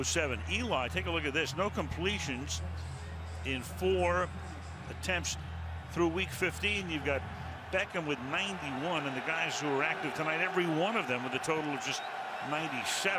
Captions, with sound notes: Through week 15, you've got Beckham with 91. And the guys who were active tonight, every one of them with a total of just 97. [cheering]